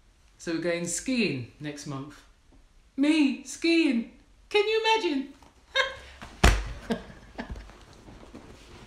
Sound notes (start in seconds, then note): 6.7 laughs